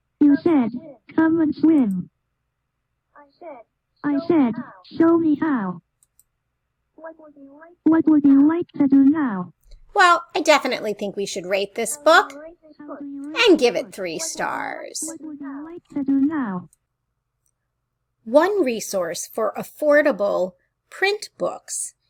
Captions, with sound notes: [computer voice]You said, come and swim. [computer voice] I said, show me how. [computer voice] What would you like to do now? Well, I definitely think we should rate this book and give it three stars. One resource for affordable print books